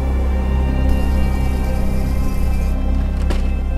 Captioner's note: leaves Rustling; window frames slamming